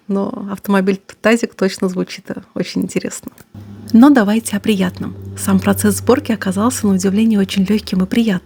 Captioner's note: car